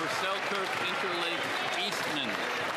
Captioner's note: some Applause